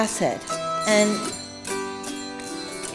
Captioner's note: bells ringing